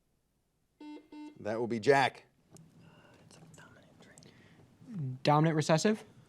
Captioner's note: buzzer beeping